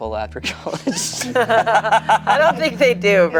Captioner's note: everyone laughs